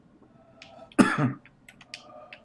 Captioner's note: coughs